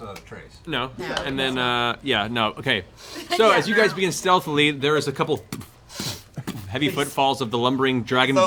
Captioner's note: footfalls